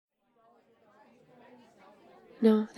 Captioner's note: party ambience